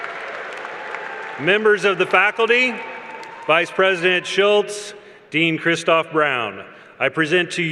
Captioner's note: cheers and Applause